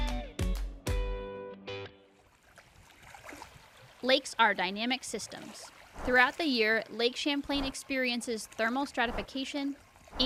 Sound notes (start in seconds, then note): 2.7 water splashing